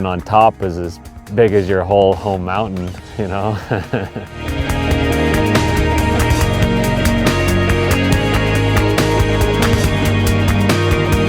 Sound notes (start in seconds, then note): 3.1 laughs; 4.8 upbeat music